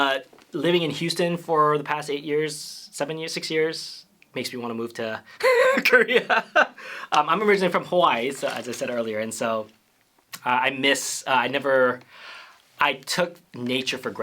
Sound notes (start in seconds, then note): 5.4 laughter